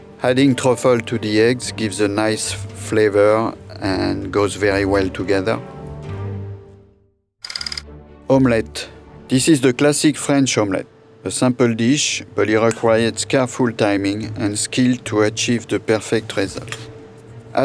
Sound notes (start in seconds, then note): 7.5 slide rolling